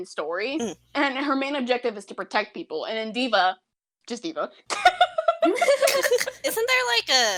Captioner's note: laughter